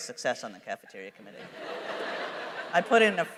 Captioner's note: laughter